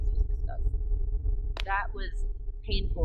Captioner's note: radio interference drowns out sound